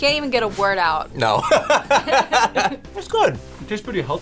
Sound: laughing

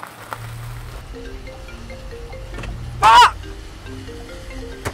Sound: phone ringing

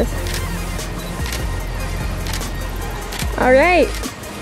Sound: camera clicking

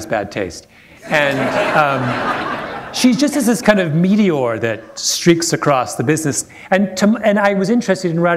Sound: laughter

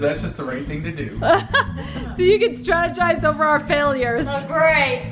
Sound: laughs

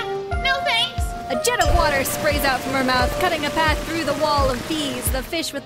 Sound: bell rings, water blasts

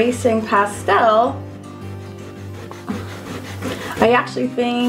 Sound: eraser rubbing

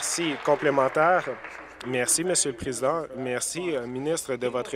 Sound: applause

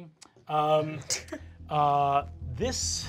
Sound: laughing

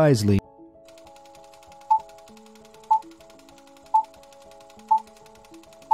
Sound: movie reel spinning and beeps

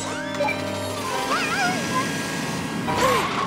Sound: whining

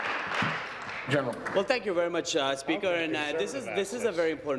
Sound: applause

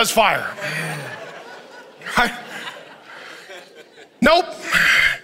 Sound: congregation chuckles

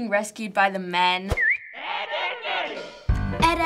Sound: whistling

